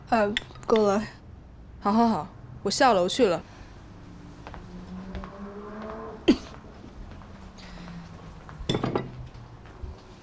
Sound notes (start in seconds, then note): 6.2 coughing